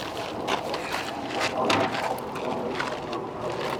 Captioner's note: loud clatters